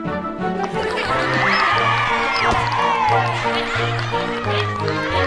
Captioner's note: children play happily